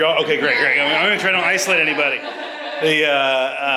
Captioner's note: audience laughs